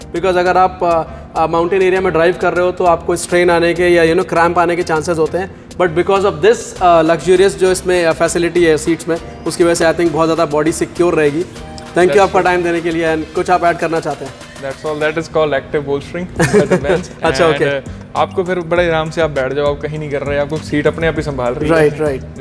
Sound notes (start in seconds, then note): 16.4 chuckles